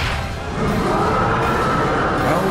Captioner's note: roars